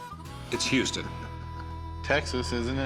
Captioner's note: chuckles